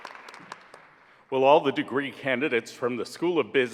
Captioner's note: applause